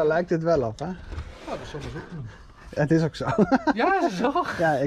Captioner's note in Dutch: hysterical laughter